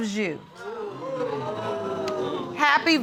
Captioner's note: audience gasping